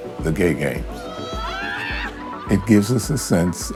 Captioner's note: skaters laughing; skaters yelling